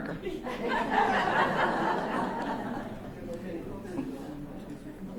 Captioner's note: laughter